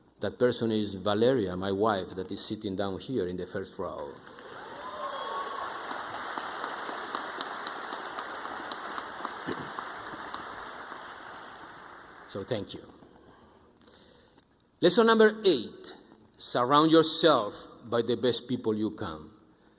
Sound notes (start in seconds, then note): 4.2 audience applauding